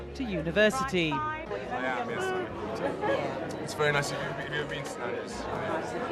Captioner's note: speaking softly